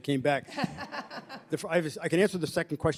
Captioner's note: laughter